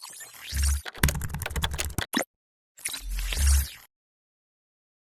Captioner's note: keyboard rattling